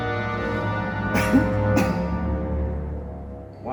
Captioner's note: coughs